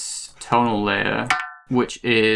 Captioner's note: metallic ping